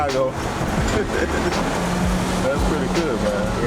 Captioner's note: laughs